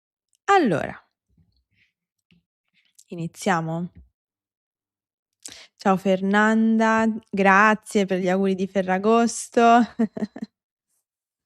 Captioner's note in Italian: risate